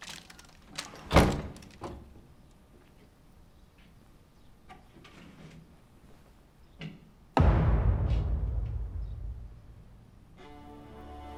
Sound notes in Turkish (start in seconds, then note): 0.9 Kapı kapanma sesi; 7.4 Baston vurma sesi